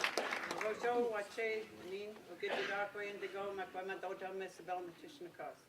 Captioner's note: speaking in foreign language